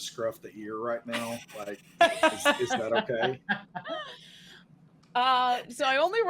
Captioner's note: laughing